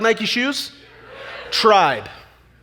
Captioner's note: audience chatter